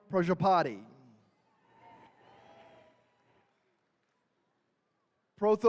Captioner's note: attendees cheering